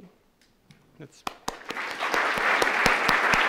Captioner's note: applause